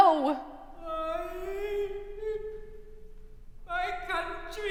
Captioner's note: moans offstage